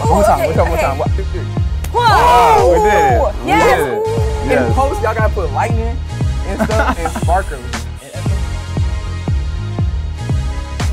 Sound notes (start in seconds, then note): 2.0 everyone Screams; 8.2 hip hop music